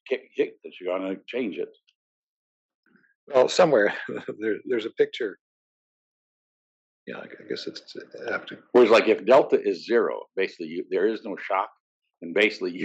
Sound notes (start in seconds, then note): 3.4 laugh